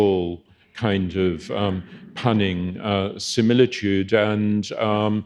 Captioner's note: audience chuckling